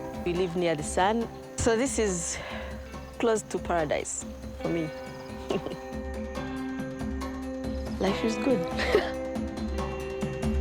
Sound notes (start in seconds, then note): 5.4 chuckles; 8.7 chuckles; 9.9 uplifting instrumental